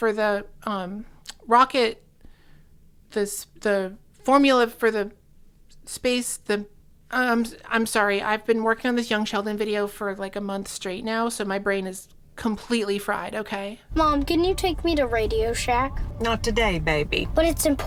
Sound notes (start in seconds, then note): none